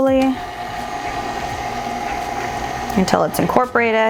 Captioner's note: mixer whirring